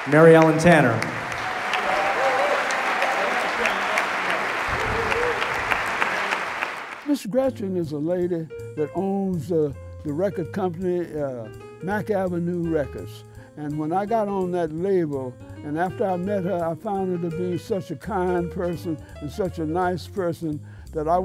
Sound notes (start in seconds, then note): 0.0 applause